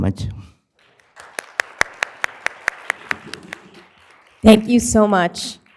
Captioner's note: applause